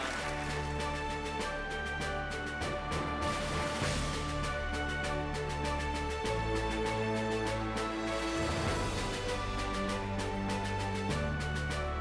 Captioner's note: applause